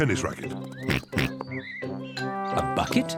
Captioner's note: oinks